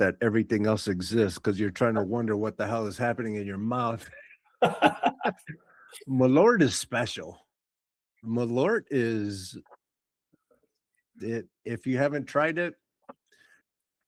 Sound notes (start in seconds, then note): 4.6 laughing